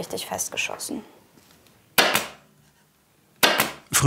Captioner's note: loud clacking